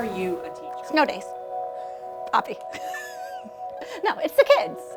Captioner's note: laughter